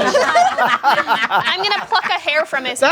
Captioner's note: group laughs loudly